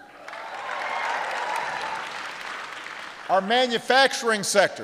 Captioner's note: applause